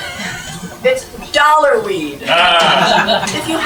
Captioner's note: laugh